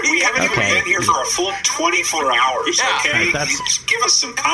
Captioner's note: still laughing